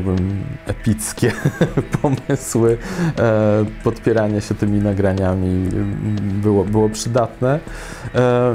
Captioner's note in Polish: śmiech